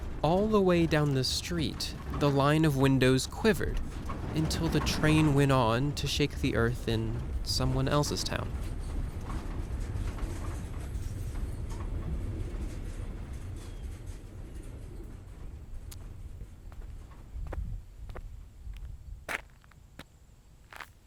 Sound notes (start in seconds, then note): 9.9 train Passes; 15.6 footsteps